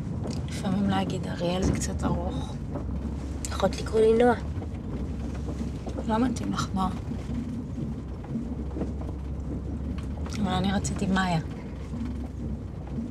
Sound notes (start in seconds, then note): none